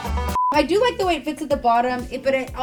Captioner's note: beep